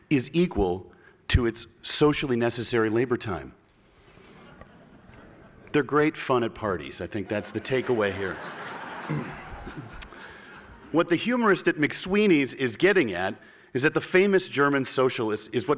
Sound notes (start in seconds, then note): 7.1 laughter